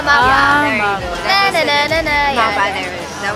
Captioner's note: humming